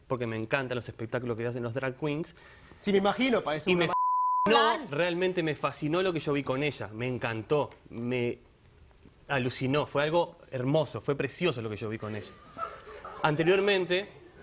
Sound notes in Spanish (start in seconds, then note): 3.9 Bip; 12.0 Risas del público